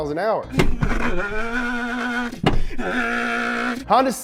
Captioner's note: mocking engine revving